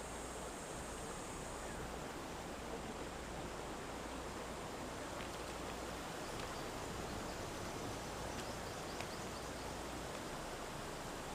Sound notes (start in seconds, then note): 6.3 birds chirping